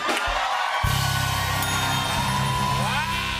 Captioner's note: cheers and applause; ding!